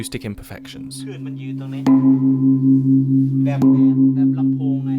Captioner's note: gong sounds